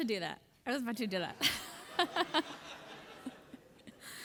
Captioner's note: laughs